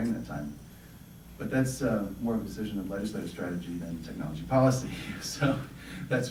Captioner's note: laughter